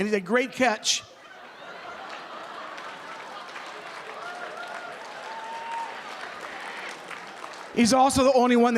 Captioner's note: laughter